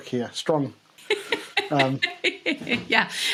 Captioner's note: laughs